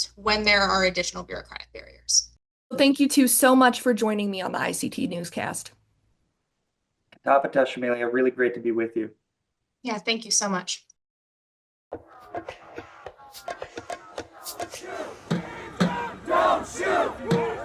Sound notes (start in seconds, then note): 7.4 speaks in foreign language; 12.2 light percussion music